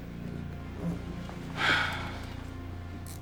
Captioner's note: sighs